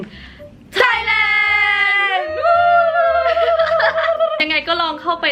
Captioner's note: cheering